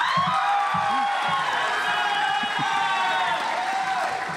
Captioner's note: audience applauds